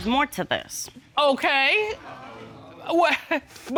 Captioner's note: chuckles